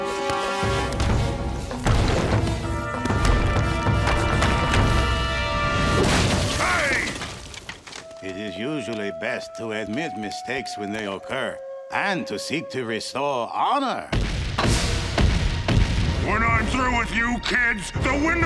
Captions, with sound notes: Hey! It is usually best to admit mistakes when they occur and to seek to restore honor. [stomping] When I'm through with you kids, the window won't be